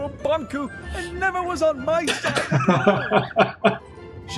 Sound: laughs

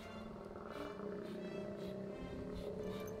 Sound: low growl; sniffing

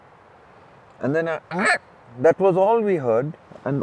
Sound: makes animal sound

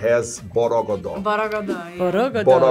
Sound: speaks foreign language

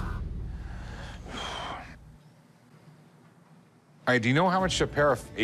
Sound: dramatic music; exhales sharply

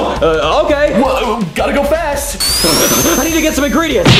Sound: feet whirring

